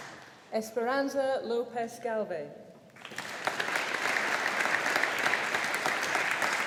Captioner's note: audience applauding